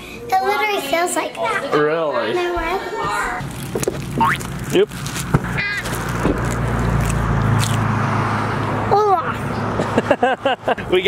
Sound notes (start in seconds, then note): 7.0 carrot crunching; 9.8 laughing